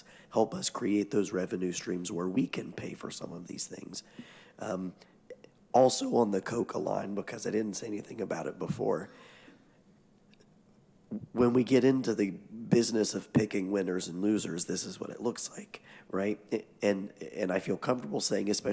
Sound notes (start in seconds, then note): none